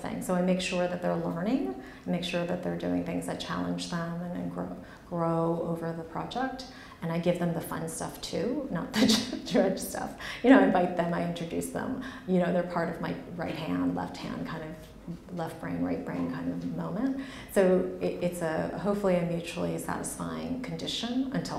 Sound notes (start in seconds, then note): 9.2 laughs